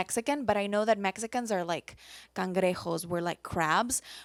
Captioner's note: speaks foreign language